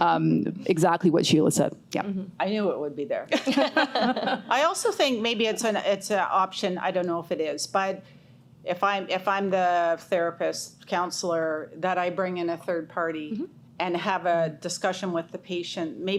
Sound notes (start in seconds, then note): 3.3 chuckles; 3.4 host chuckles